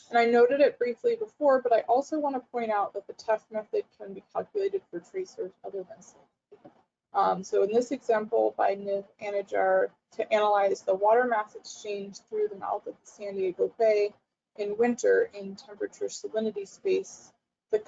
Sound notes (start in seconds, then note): 6.6 audio drops out